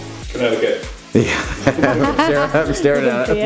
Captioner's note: laughing